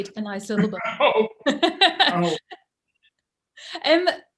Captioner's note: laughs